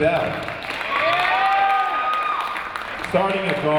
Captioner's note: audience applauding and cheering